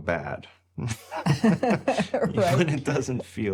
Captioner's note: both laughing